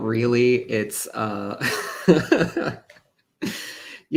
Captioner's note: laughter